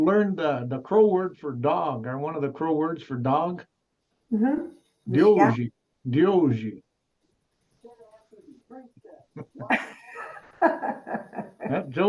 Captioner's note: in a Crow accent